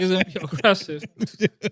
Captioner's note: laughing